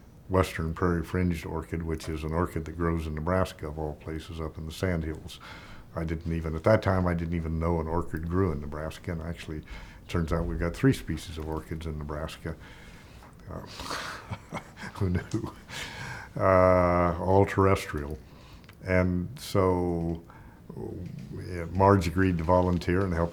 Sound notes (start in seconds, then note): 13.9 chuckling